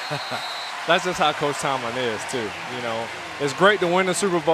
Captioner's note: chuckles